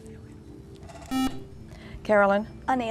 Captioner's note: buzzer